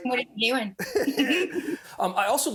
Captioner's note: giggling